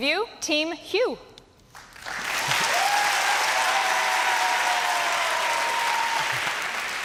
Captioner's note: applause and cheering